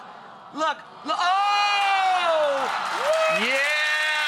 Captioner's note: audience applauding